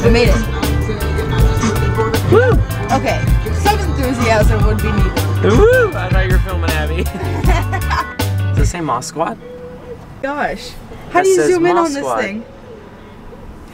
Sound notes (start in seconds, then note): 7.0 woman laughs